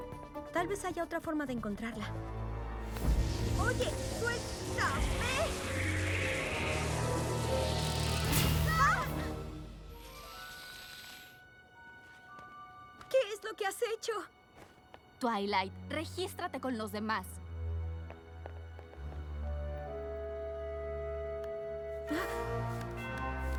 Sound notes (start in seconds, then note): 2.6 whoosh; 8.2 yell